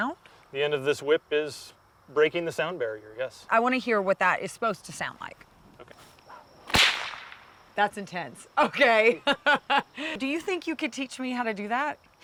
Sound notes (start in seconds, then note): 6.6 whip cracking